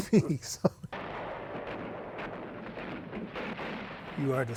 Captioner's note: gun shots